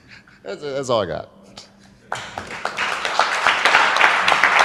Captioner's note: audience clapping